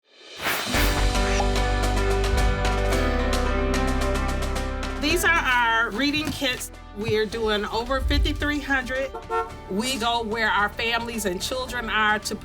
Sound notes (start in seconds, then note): 0.7 light music; 9.0 car horn beeps